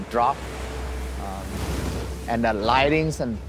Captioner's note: waves crashing